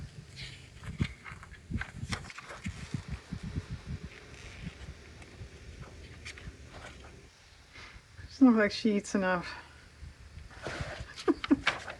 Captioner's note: laughs